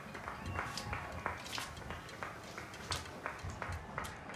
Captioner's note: crowd cheering